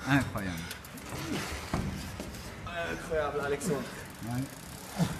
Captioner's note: speaking foreign language; man in helmet grunts